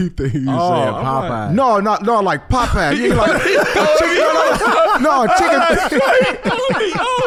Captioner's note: laughing